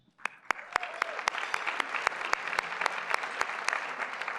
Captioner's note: applause